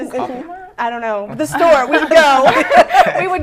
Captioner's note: laughter